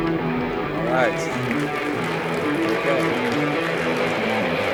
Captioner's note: applause